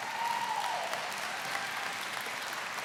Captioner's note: applause